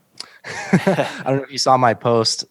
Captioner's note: both laughing